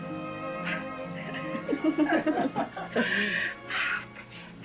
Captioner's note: classical music; giggles, laughter